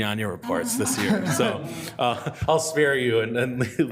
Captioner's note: all laughing